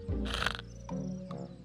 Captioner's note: snores; snaps